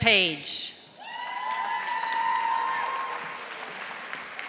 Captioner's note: audience applauding